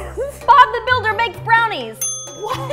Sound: ding

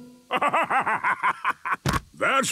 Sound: bursting laughter

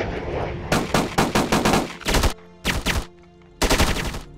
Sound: guns firing

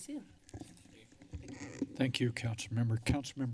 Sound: microphone squeaks

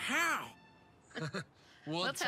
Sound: chuckling

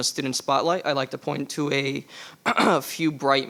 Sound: clears throat

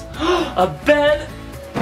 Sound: gasps

